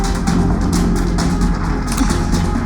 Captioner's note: ties snap